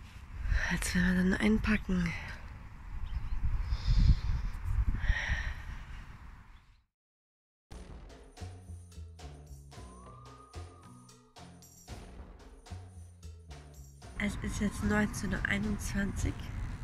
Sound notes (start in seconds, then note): 2.9 sigh & background noise